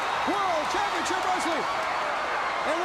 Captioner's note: crowd cheering